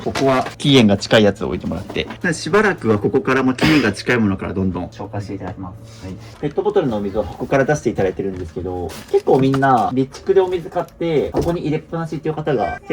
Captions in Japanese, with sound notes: ここは期煙が近いやつを置いてもらって、しばらくはここからも期煙が近いものからどんどん紹介していただきます。はい。ペットボトルのお水を箱から出していただいてるんですけど、結構みんな蓄でお水買って箱に入れっぱなしっていう方が結構多いんですけども、もう僕出すのがおすめです。買ったらすぐ出すっていうことでやって、で、あのもですね、もう自己いです。一旦どんどん見えるように置いていきます。はい。 [咳払い]